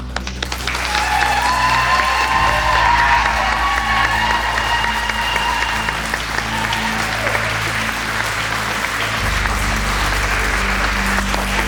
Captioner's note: raucous applause